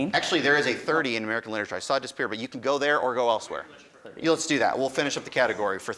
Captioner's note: none